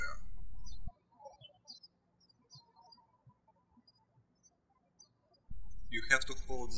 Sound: birds chirping

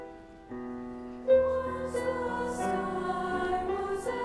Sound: delicate, mournful piano music; high voices

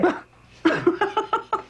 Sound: George scoffs; Mom laughs

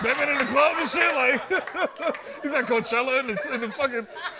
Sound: laughs

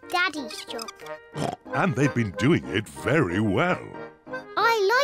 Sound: oinks

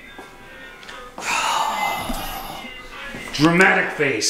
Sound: disgruntled sigh

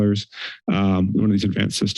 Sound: inhales

